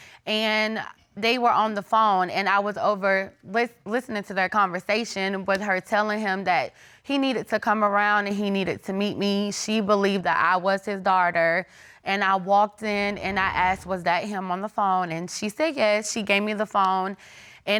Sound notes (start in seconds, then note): none